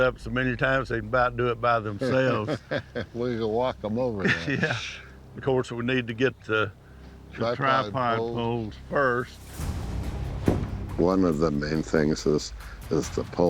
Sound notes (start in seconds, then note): 2.0 laughs